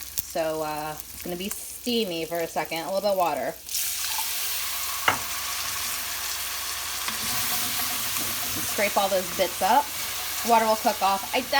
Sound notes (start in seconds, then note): 4.4 pan sizzling